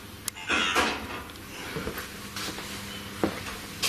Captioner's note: voice On Radio